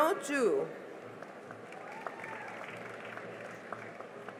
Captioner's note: cheering and applause